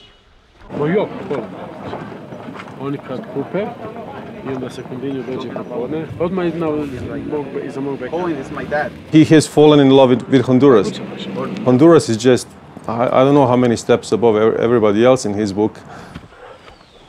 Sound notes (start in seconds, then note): 0.7 speaking foreign language